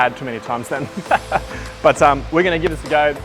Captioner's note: laughs